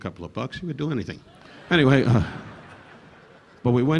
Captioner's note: audience laughing